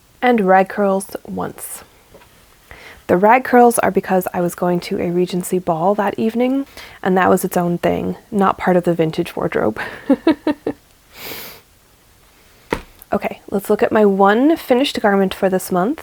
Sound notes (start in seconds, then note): 9.8 laughs